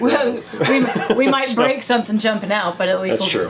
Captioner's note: laughing